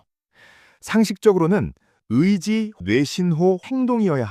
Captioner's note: brain signal